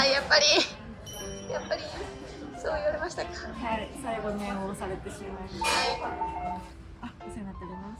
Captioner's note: laughter